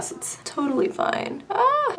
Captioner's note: squeals